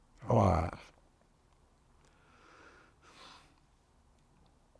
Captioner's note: pauses 6 seconds